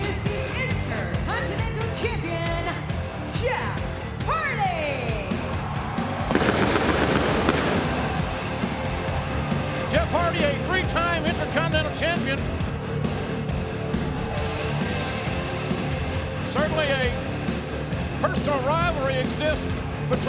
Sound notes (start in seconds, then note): 5.2 audience cheering; 6.3 pyro blasting